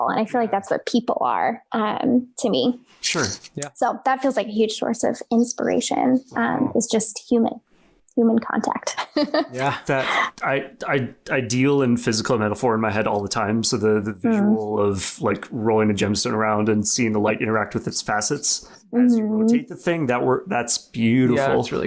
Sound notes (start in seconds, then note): 8.9 laughs